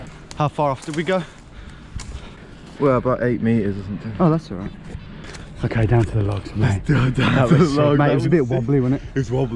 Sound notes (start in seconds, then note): 6.9 laughing